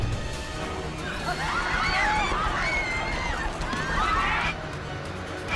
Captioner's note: screaming